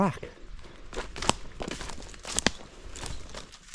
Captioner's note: sticks crunching